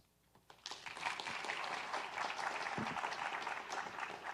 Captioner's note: audience clapping